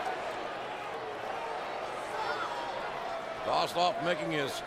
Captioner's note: crowd chattering